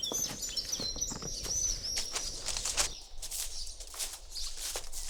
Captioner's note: birds chirp